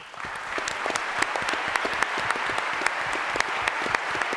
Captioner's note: applause